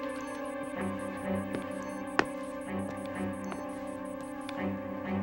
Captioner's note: doorbell ringing